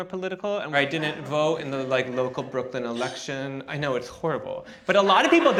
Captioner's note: gasp